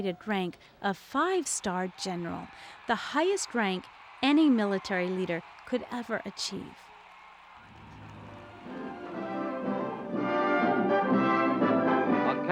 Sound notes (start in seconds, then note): 7.0 crowd cheering; 8.2 victorious music